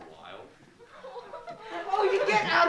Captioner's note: giggling